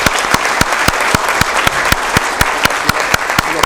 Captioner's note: applause